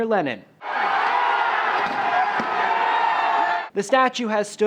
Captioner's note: cheering